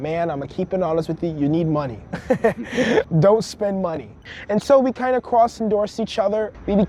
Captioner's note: laughs